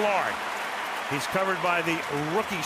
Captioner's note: cheering